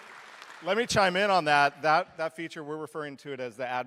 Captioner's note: applause